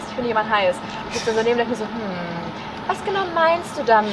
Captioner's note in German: kichern